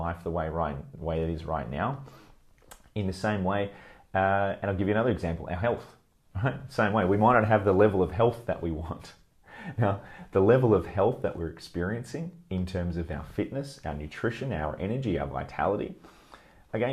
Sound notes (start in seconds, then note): 6.0 chuckles; 9.6 laughs